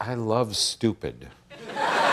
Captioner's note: audience laughter